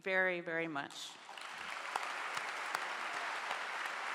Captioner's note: clapping